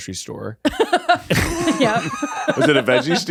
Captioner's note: all laughing